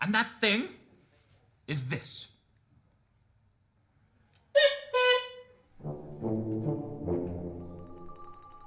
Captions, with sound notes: And that thing is this, (Merrill squeaks cuckoo) (suspenseful music)